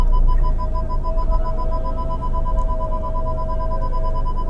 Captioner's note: rapid beeping